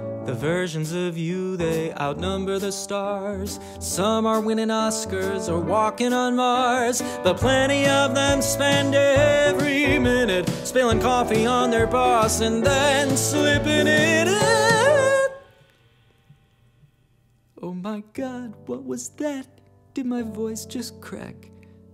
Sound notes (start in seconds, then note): 15.0 voice cracks embarrassingly